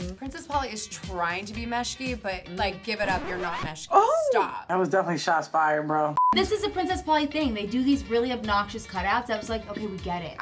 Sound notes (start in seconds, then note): 3.0 record scratch; 6.2 beep